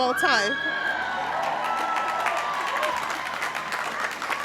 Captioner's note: audience applauding